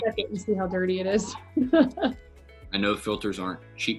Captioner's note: laughs